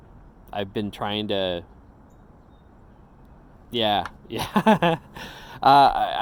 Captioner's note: laughs